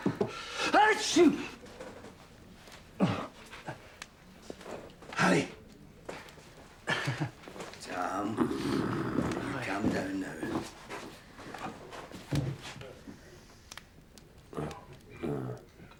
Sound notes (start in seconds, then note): 0.9 sneezing